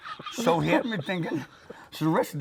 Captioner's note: laughing